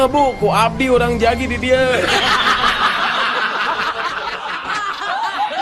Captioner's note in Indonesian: tertawa